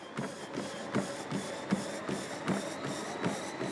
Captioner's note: treadmill whirrs